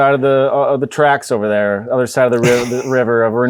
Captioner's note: laughs